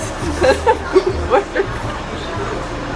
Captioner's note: laughs